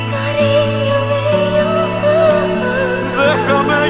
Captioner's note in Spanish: Voz de mujer